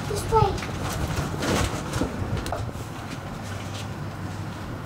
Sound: shuffling

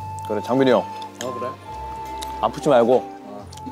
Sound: still eating

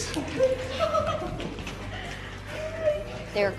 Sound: laughter

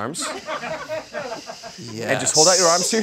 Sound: people laugh

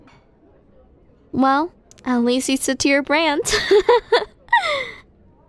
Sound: laughs

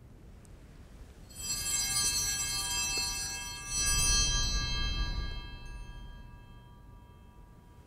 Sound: bells ringing

